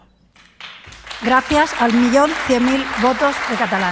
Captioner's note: applause